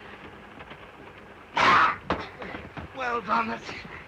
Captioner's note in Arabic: صوت خشخشة القطار; صوت صراع; صرخة دوبو